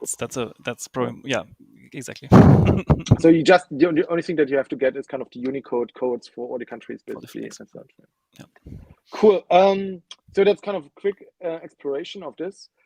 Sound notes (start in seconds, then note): 2.3 laughing